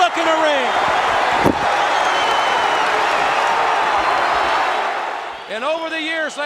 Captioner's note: crowd cheering; crowd whistling